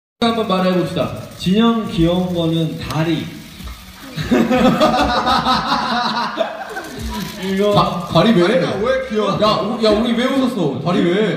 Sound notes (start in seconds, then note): 4.1 evil laugh